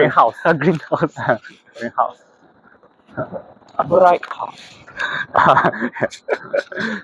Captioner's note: laughs